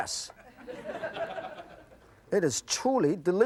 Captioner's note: audience laughs